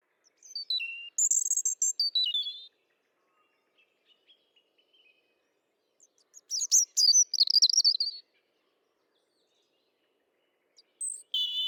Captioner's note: bird songs